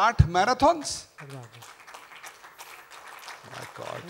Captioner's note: applause